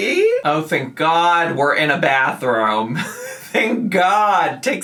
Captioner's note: laughs